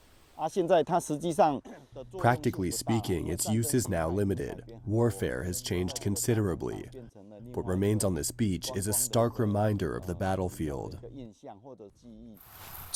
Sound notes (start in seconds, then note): 2.7 through translator